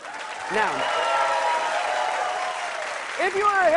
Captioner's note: cheers and applause